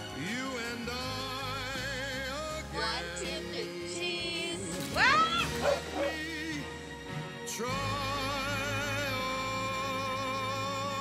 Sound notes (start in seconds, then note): 5.0 woman screaming; 5.5 dog barking